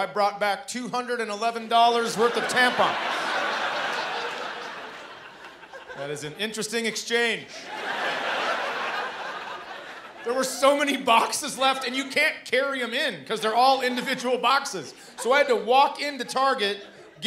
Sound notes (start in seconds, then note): 2.1 laughter; 7.4 laughter